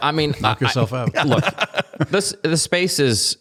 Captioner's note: laughter